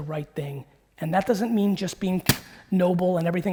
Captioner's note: spitting